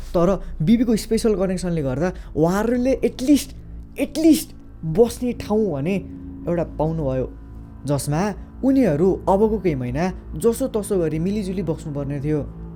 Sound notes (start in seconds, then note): none